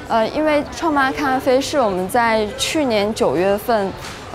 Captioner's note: speaking in Chinese